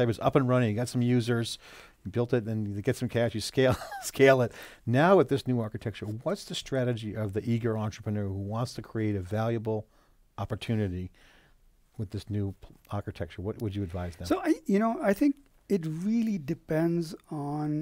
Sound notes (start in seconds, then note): 4.4 laughs